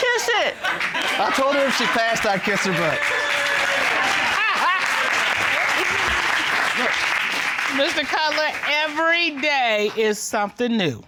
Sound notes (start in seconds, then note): 4.1 judge laughs